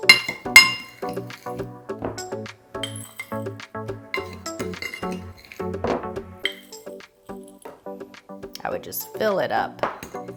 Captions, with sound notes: (salts clicking) I would just fill it up.